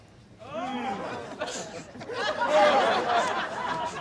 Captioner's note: audience laughing